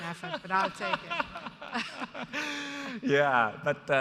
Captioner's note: laughs